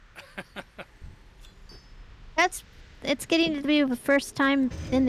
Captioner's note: laughs